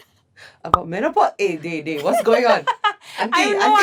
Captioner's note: laughs